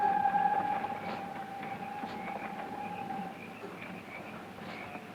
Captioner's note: insects chirping